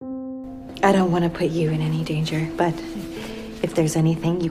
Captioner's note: voiceover